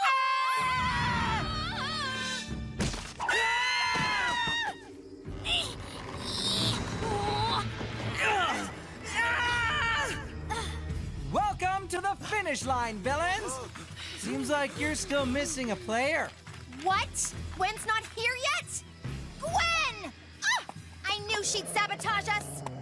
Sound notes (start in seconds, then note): 0.1 Heroes Screaming, Sierra Vocalizing; 3.2 heroes Screaming; 5.3 Sierra Grunting; 8.2 Mike Grunting, Screaming